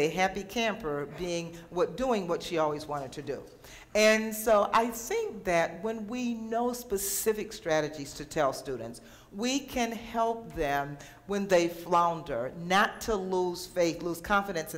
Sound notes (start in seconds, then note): none